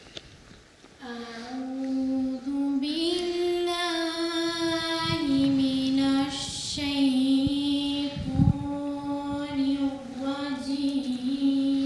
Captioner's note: Arabic recitation of the Holy Qur’an 41:34-36